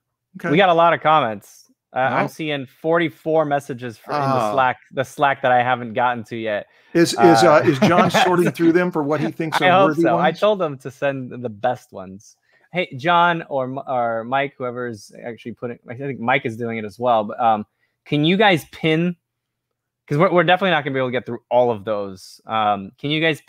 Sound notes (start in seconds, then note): 7.0 laughs